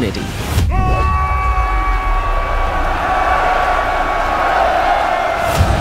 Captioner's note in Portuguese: gritos